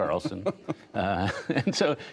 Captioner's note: laughter